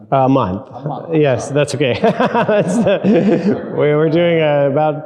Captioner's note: laughing